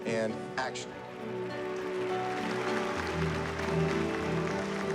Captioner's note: applause